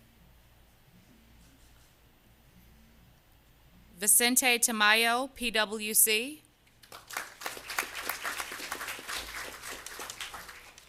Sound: applause

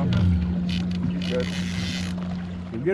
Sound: boat engine running; reel cranking

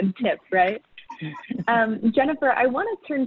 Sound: group laughs

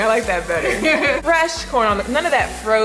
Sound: chuckling

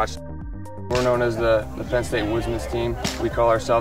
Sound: voiceover

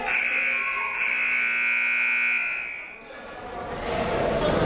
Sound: buzzer sounding

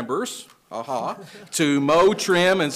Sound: attendees chuckling

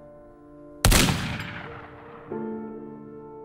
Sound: gunshot

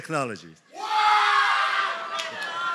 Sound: enthusiastic cheering

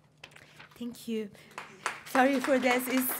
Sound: applause

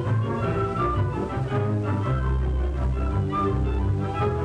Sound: none

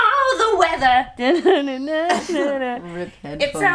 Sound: mimics guitar

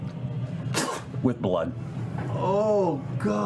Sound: spits

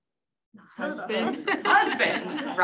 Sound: laughter

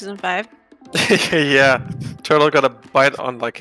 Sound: laughs

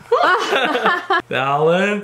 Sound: laughs

